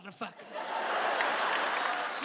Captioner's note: audience laughing